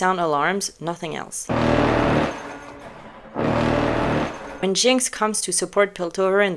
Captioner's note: alarm sound